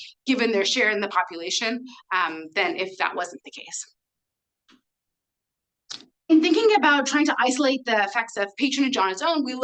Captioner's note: none